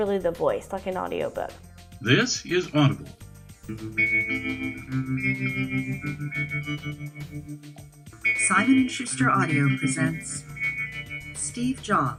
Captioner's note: audiobook playing